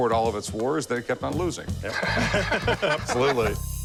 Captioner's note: laughter